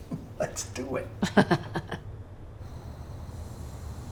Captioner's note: woman laughing